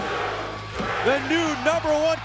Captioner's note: crowd cheering